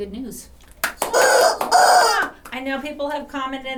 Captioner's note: chicken cawing